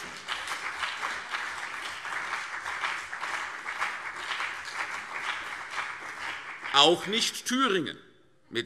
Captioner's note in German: Beifall CDU und BÜNDNIS 90/DIE GRÜNEN